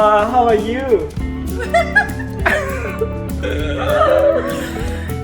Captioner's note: happy laughing